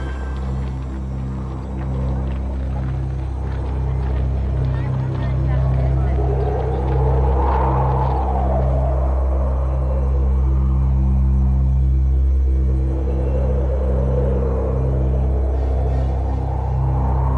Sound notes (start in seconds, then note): 0.8 wind howling